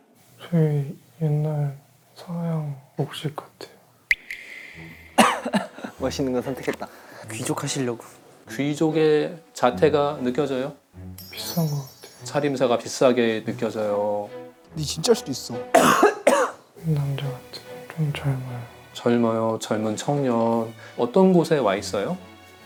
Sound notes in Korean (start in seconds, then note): 15.7 콜록콜록